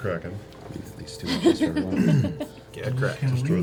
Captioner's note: laughs